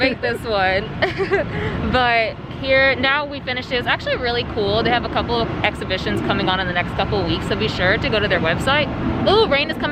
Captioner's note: laughs